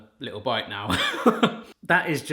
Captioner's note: laughs